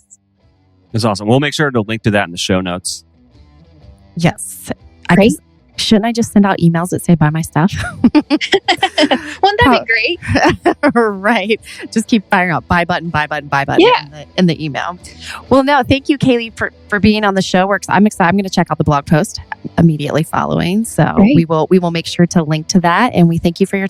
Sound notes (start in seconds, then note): 7.7 laughs; 13.8 laughs